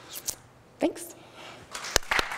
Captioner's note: applause